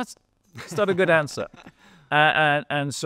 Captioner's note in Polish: śmiech